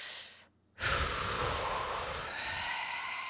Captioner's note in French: soupir assiégé